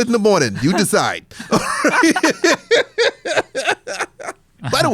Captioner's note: laughs